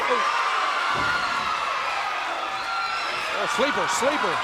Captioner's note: fans screaming